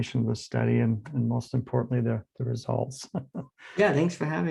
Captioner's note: laughs